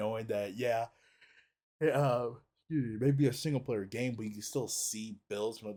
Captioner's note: laughs